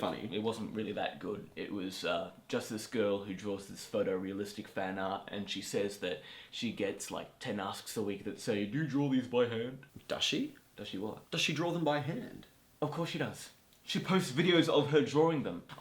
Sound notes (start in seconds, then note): 8.6 deep voice